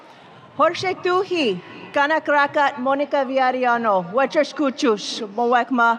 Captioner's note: speaking foreign language